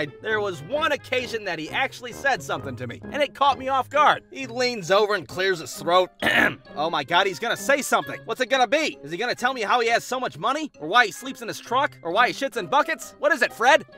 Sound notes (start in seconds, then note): 6.2 clears his throat